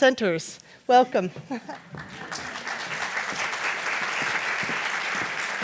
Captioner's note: audience applauds